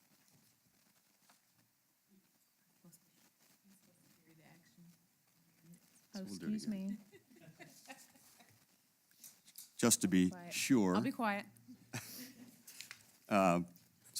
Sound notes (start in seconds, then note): 6.8 laugh; 11.2 laugh